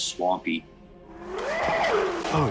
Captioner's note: howling